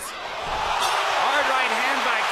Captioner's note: crowd cheers